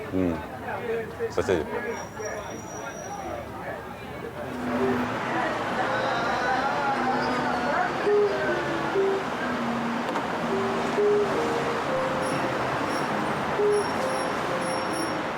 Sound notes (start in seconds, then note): 1.1 speaking in foreign language; 5.2 engine humming; 6.1 customers chattering indistinctly; 7.4 mellow guitar music; 12.4 brakes squeaking